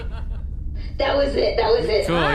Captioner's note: more laughter